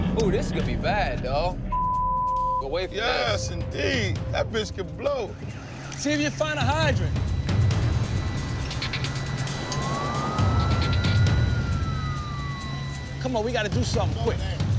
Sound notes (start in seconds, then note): 9.6 police sirens